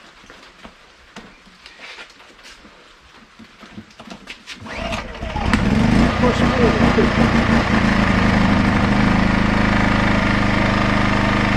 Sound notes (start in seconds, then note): 4.6 engine starts